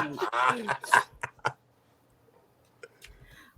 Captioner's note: laughter